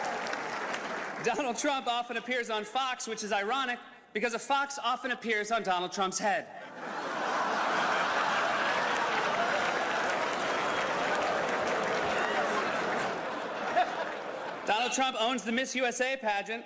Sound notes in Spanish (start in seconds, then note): 6.6 risas